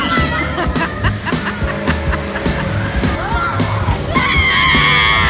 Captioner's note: screaming and laughing